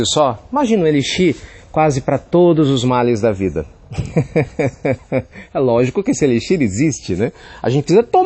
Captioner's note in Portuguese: Risos